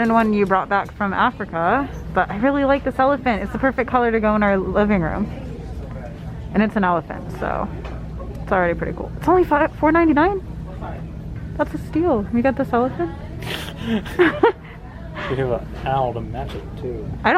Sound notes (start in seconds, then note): 13.4 laughing